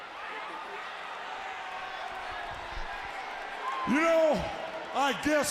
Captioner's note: crowd chatter